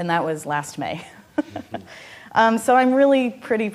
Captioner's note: laughing